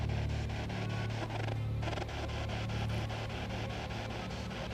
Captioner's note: radio static continues